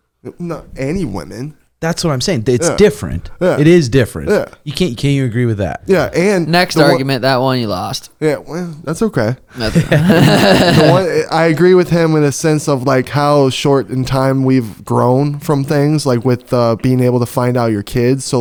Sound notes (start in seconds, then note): 9.6 everyone laughing